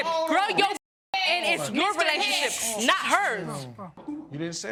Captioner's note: shushing